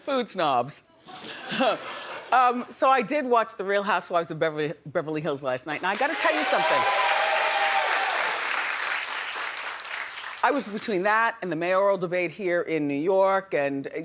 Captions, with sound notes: Food snobs. So, I did watch the "Real Housewives of Beverly Hills" last night and I gotta tell you something. (audience cheering) I was between that and the mayoral debate here in New York,